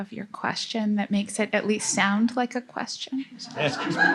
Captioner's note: laughter